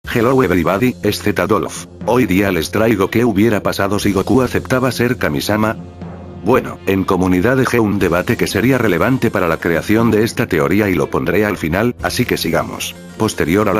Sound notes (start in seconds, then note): 7.9 in spanish